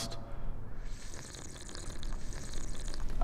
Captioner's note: slurping